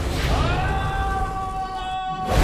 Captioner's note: screams